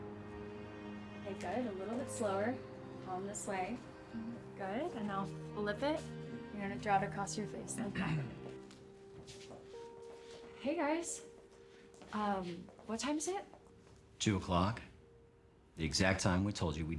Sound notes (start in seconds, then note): 7.9 clears throat